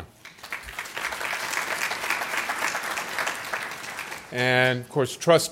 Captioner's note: applause